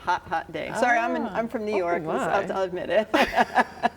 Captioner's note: laughs